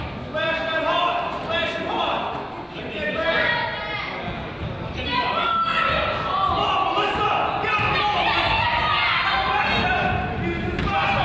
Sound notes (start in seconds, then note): 6.4 coach yells